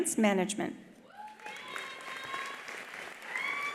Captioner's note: attendees cheering; attendees applauding